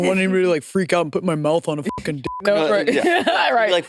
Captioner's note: beep; laughs